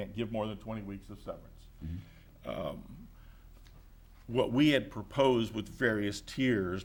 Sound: none

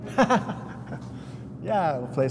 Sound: laughs

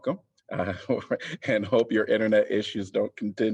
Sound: laughter

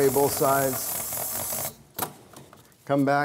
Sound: spray sound

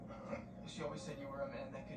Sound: chuckles

